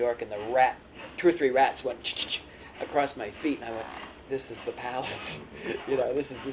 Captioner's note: laughs